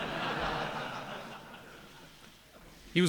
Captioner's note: laughter